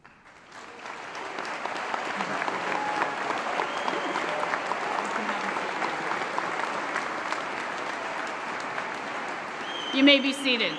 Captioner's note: applause